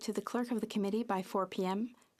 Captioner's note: speaking French